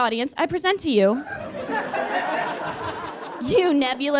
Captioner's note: audience laughs heartily